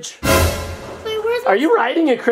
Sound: dramatic sound

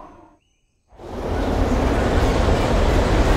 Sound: blowing ferociously

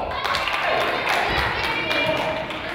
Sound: crowd applauds

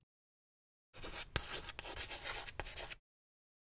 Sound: chalk writing on chalkboard

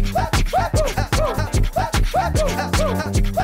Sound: woo woo

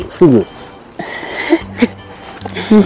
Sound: laughs

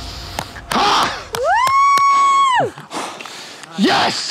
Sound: grunts; applauds

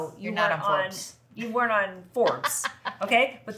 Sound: laughs

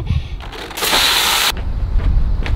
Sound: giggling; water spraying

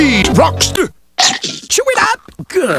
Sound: chomp

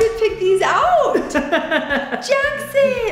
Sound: laughs

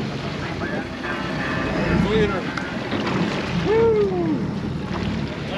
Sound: splashing

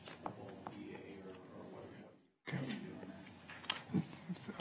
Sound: speaks quietly off mic

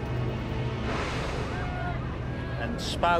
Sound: gasping and shouting

